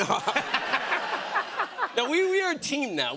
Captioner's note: laughter